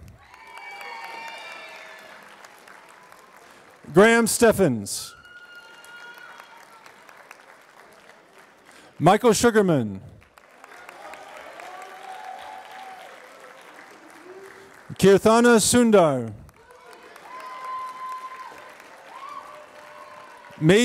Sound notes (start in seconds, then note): 0.0 applause; 10.1 applause; 17.1 applause